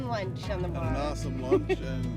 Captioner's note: laughs